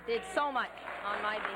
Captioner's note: applause